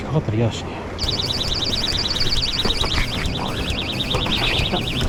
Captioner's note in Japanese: バイトアラームがまた突然鳴り出す